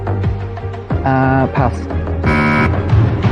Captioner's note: buzzer sounds